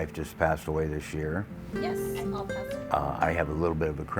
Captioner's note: woman on Phone